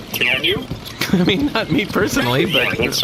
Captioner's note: laughing